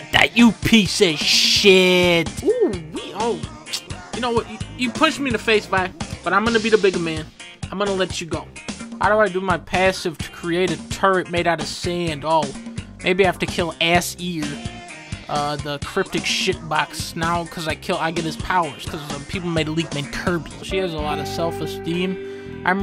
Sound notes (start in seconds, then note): 2.3 tsk